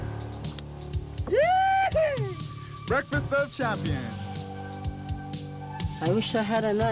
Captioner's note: cheering